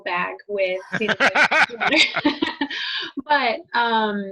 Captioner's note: laughing